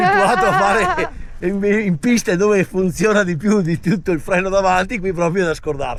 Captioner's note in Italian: risate